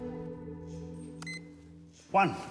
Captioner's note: beep!